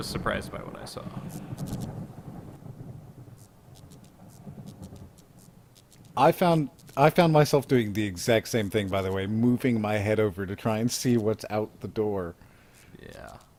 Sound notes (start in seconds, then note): 2.1 thunder roars; 3.2 electric light buzzes